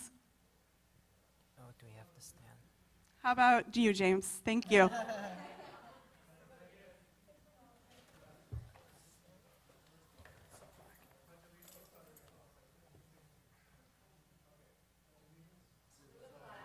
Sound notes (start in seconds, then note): 8.5 laughter